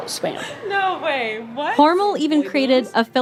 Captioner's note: laughing